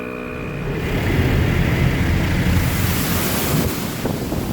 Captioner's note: water spraying